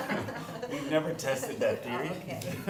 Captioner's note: laughter